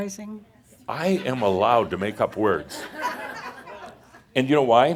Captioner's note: some laughter